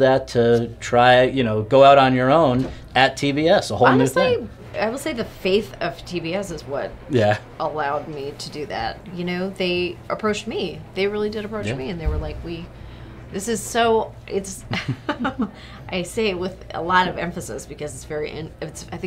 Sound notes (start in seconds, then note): 14.7 laughs